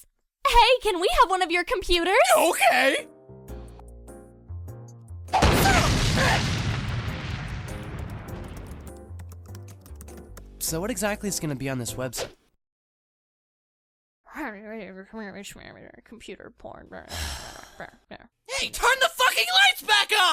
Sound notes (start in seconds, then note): 5.3 smash; 17.0 kyon sighs